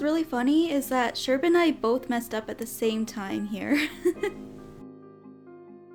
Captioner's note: giggles